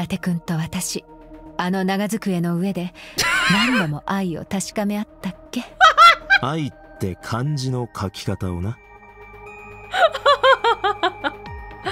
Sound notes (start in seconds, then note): 2.8 laughs; 9.9 chuckles